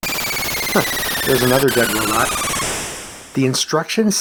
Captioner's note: chuckle